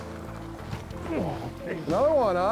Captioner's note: grunts